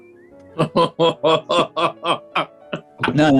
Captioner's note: sniggering; chortling